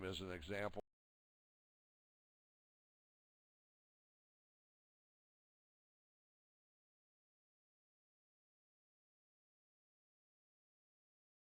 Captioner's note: audio drops